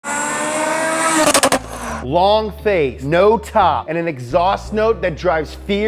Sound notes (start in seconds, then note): 0.0 car engine